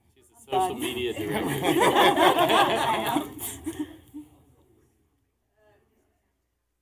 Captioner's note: laughter